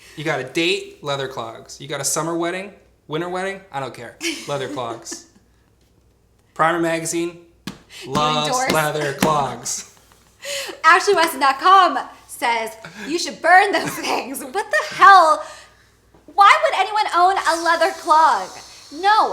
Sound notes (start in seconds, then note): 4.2 laughs; 11.0 laughs